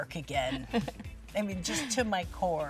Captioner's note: chuckles